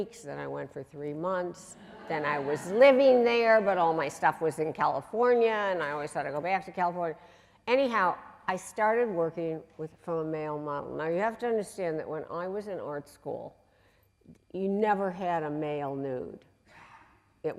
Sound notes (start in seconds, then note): 9.4 voice muffled